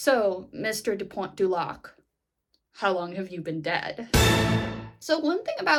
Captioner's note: staccato sound effect